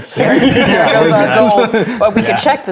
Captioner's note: players laughing